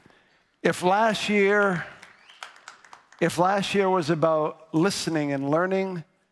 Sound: audience clapping

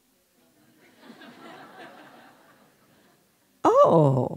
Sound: laughing

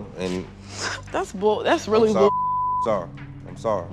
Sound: beep

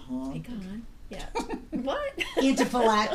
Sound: laughing; voiceover

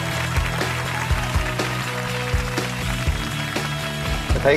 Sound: applause

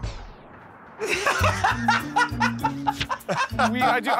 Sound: laughter

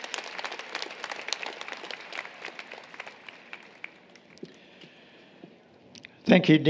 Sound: applause, Cheering

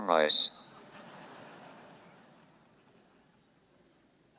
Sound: audience laughs

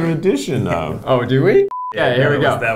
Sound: test pattern beeps

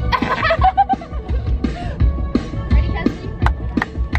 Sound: laughing

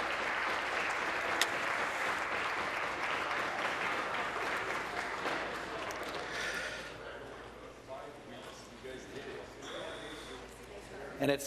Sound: applause

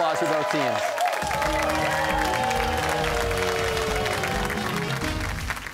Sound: cheers and applause

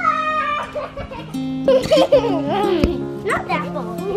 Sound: laughing

